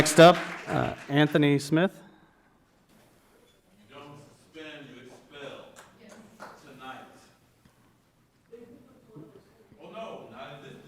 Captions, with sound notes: Next up, Anthony Smith. (speaking faintly off mic)